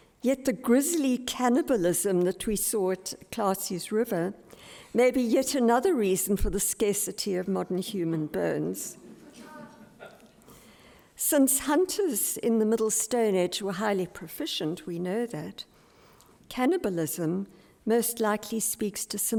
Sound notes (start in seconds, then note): 9.1 audience laughs